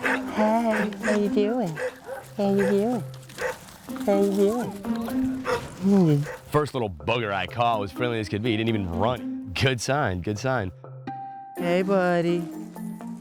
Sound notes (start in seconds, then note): 4.4 dogs barking